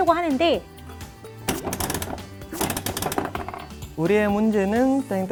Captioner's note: rattle